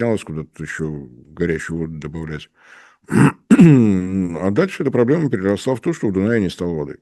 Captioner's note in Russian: откашливается